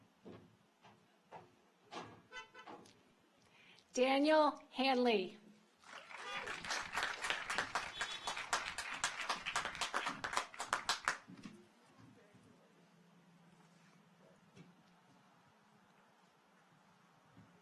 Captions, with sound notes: Daniel Handley. (audience applauds) (car horns honking)